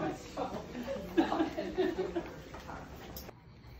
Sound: laughs

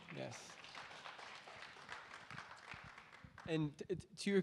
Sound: audience applauding

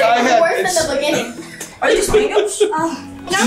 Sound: laughing

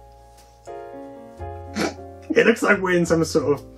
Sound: snigger

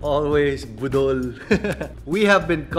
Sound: laughs

